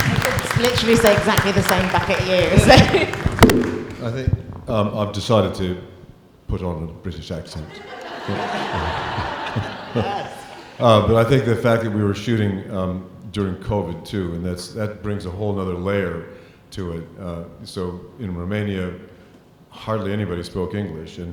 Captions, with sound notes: - I could literally say exactly the same back at you! - I think I've decided to put on a British accent. (audience laughing) But I think the fact that we were shooting during COVID too and that brings a whole another layer to it. So, in Romania, hardly anybody spoke English,